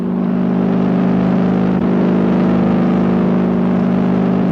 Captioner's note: airplane motor whirring